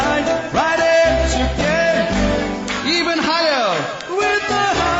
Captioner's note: చప్పట్లు